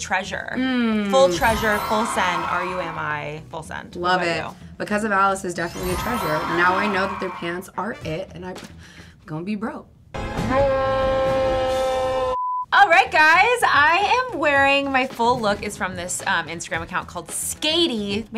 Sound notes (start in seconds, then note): 0.3 twinkling and children cheering; 5.6 twinkling and children cheering; 10.2 screaming; 11.7 blooper beeps